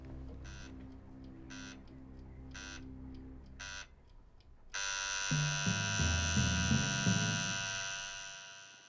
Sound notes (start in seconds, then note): 0.3 rhythmic buzzing; 6.6 constant buzz